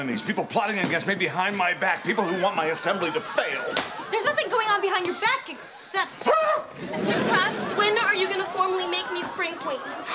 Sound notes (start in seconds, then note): 6.2 <i>screams